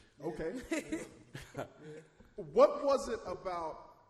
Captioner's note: chuckles